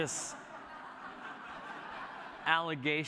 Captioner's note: laughter